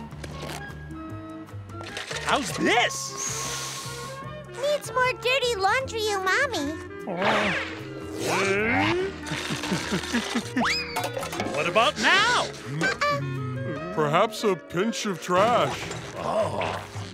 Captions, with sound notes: How's this? [sniffing] Needs more dirty laundry o'mommy. What about now? Uh-uh. Perhaps a pinch of trash. Ah.